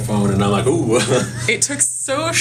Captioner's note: laughs